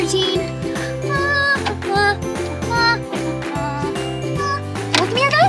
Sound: upbeat playful music; hums

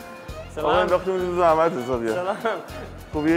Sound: speaking Persian

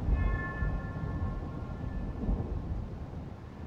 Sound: ominous bell ringing

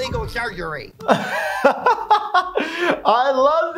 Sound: laughing

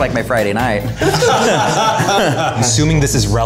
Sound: all laughing

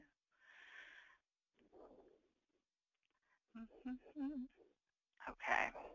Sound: humming

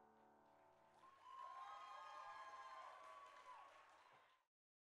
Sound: cheering

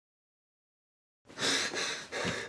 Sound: gasping

